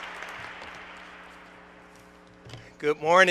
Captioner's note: applause